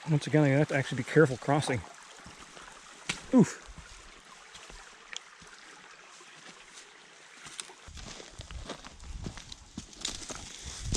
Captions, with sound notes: Once again, I'm gonna have to actually be careful crossing. (water burbling) Oof. (gravel crunching)